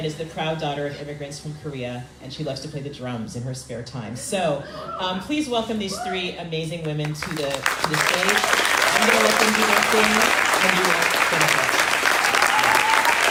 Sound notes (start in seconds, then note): 7.0 audience applauding